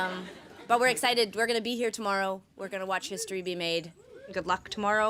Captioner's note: laughter